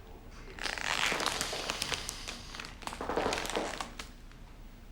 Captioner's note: sniffing